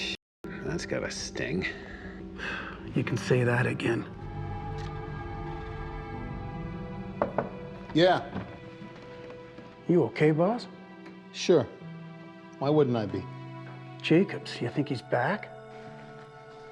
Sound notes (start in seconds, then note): 4.2 dramatic music; 7.0 door knocking